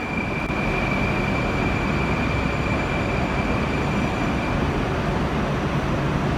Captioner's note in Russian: прибытие поезда на станцию